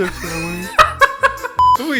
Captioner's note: laugh